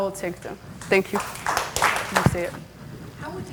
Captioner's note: audience clapping